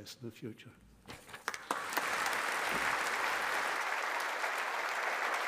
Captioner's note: audience applauding